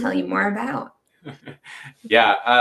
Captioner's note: chuckling